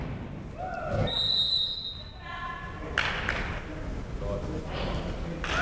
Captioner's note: whistle shrills